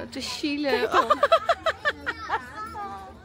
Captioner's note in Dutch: Gelach